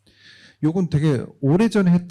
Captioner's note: speaking korean